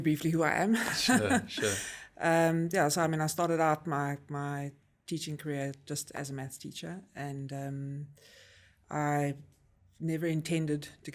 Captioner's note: laugh